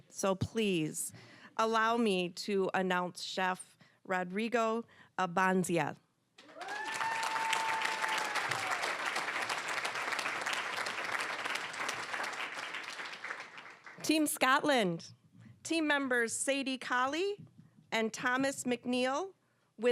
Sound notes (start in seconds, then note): 6.4 cheering, applause; 10.8 applause